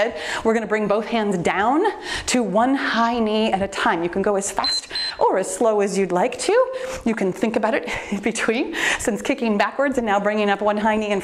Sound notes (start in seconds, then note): 4.5 timer beeps